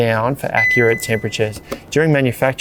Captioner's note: fridge beeps